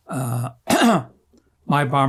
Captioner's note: clears throat